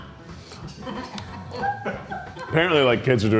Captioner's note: crew laughing